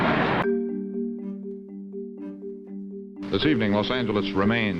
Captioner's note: crowd cheering